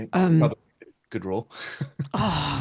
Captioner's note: chuckles